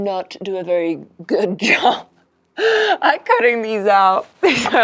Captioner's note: laughs